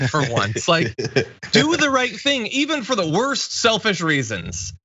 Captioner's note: laugh